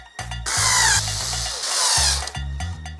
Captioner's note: drill sound